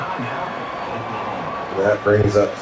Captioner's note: crowd Noises